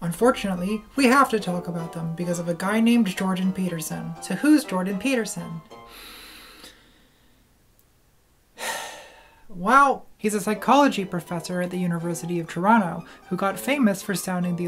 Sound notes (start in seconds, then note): 6.3 sigh